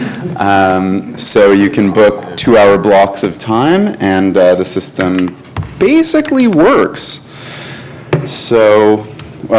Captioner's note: laughter